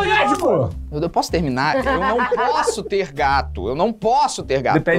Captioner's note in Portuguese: risadas